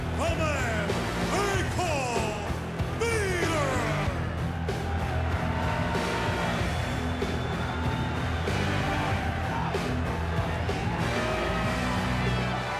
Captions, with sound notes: the man they call Vader! (intense music continues) (crowd booing)